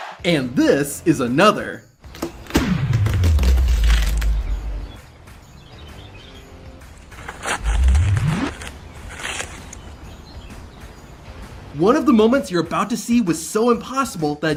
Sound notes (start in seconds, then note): 2.9 watermelon cracking; 5.7 birds chirping; 5.7 upbeat music; 7.2 watermelon squelching